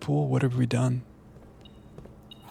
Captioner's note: door beeps